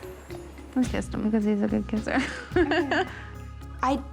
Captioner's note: laughing